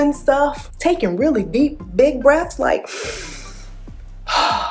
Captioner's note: deep inhale